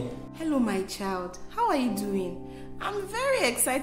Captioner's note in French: au téléphone